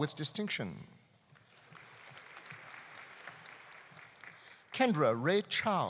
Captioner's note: audience applauding